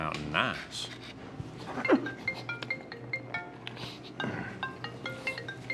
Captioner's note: phone ringing